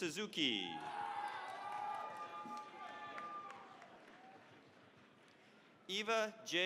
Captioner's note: cheering, applause